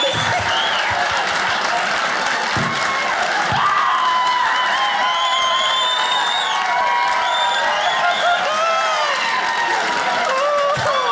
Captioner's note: audience laughing